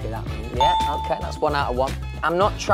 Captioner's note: bell chimes